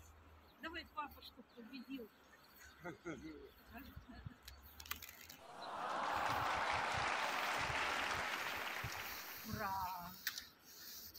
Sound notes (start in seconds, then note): 2.6 laughter; 5.5 applause